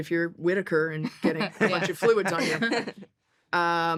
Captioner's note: laughter